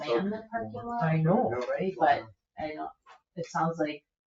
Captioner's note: people chattering